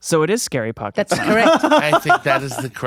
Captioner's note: laughing